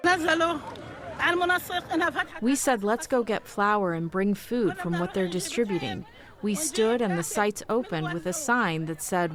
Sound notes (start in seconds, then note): 3.1 through translator